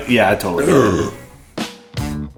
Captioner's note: burp